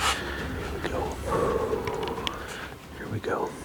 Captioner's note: exhales; suspensful music